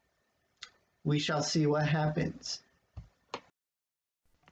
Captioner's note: click